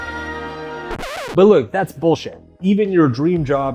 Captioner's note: magical music; record scratches